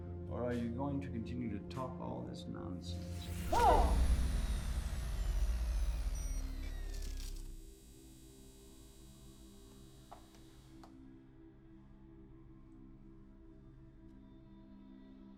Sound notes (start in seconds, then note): 3.1 digital whirring; 8.0 tense steady music